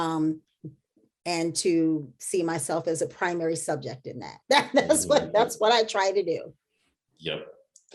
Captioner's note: chuckle